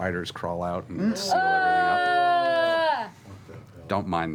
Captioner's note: groaning